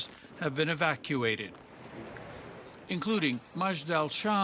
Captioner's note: sirens